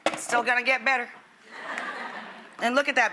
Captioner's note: audience laughs